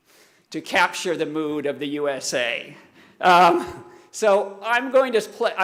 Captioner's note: laughing